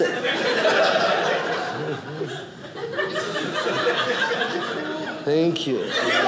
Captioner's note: audience laughing